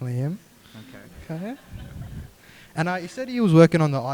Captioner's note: group laughing